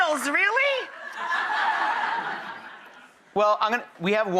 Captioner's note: audience laughs